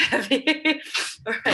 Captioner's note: laughs